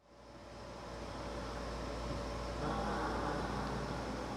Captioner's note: machine whirring